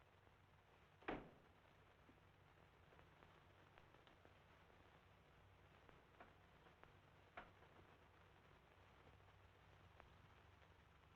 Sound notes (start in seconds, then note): 1.6 tray thumping